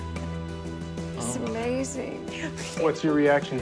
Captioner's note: laughs